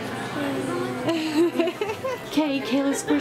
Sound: laughter

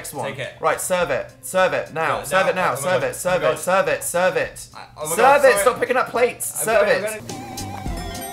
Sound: stuttering

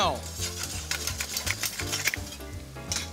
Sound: grinding

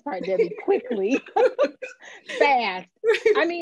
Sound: laughing

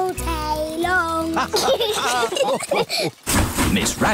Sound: laughter

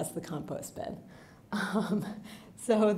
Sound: chuckling

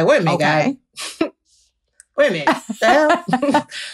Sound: chuckles

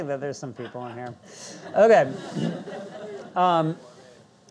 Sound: audience laughing

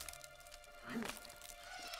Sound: Ewok noise

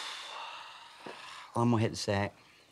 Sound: sighs

